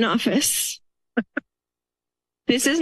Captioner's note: laughter